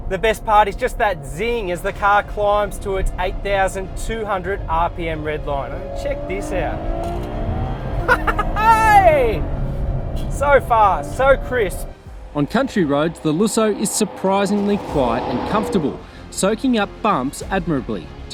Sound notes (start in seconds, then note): 8.0 laughs